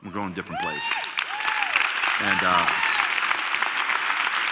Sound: cheers

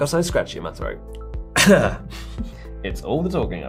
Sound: coughs

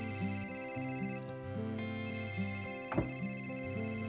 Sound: phone ringing

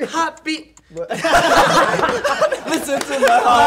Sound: laughing

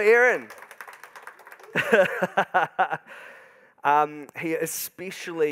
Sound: audience applauding

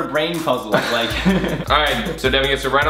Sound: Collins laughs loudly

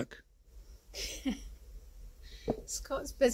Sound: laughing

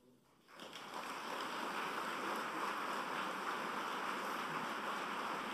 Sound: applause

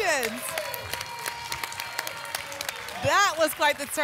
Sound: applause and cheering

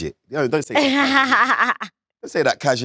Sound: Letitia laughs

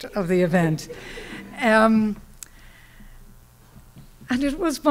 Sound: laughter

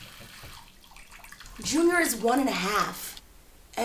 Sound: water running

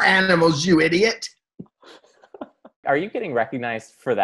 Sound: both laugh

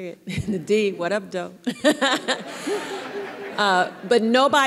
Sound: everyone laughing

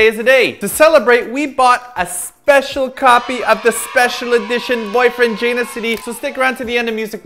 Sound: kids cheering: Yay!

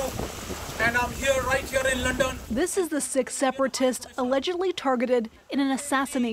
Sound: speaking alternate language

